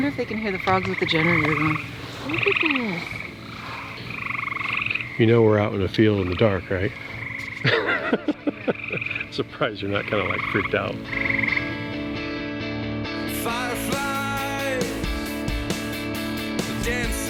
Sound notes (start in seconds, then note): 2.3 frogs croak; 7.6 chuckles; 7.6 frogs croak